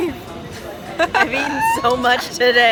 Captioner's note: laughing